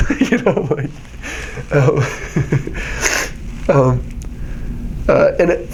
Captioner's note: laughing